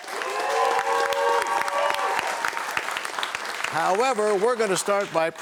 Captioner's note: cheers and applause